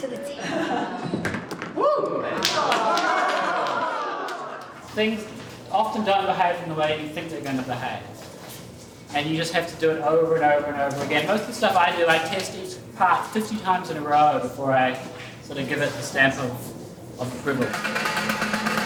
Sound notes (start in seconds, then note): 3.7 cheering